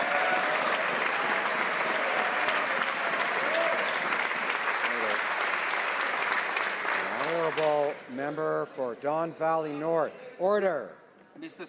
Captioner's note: some Applause